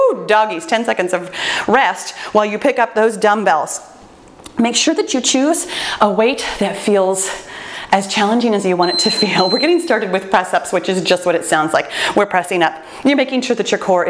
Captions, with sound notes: Woo, doggies, 10 seconds of rest while you pick up those dumbbells. Make sure that you choose a weight that feels as challenging (timer beeps) as you want it to feel. We're getting started with Press Ups which is just what it sounds like. We're pressing up, you're making sure that your core